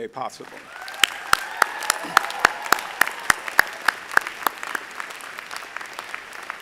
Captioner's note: audience applauding; audience cheering